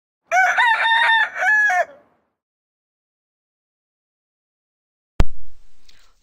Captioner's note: rooster crows